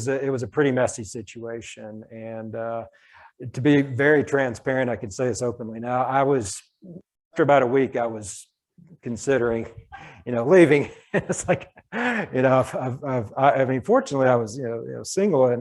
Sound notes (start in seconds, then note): 9.6 laughs